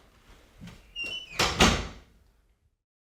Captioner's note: door closes